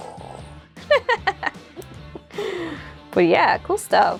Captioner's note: laugh